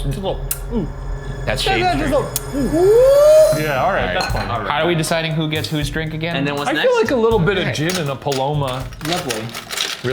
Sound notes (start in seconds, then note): 2.4 cheers